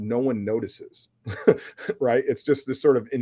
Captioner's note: laughs